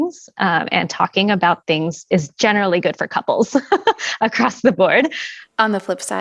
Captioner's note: laughter